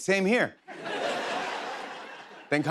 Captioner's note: laughter